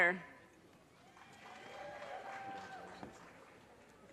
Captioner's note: audience cheers and applause